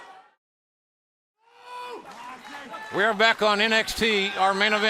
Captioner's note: crowd chatter